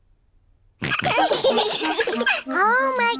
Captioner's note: all laughing